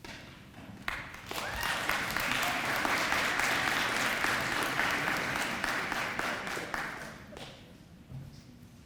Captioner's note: applause